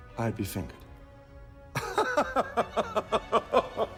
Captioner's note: laughing